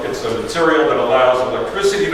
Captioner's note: none